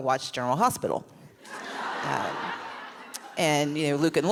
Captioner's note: laughs